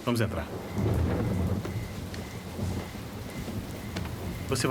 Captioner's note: loud thunder